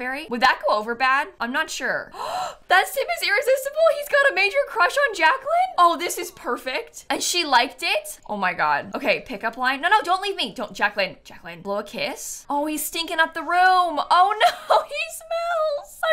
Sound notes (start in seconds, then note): 2.1 gasps